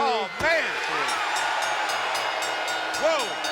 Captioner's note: bell ringing